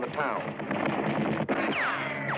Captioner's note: gunshots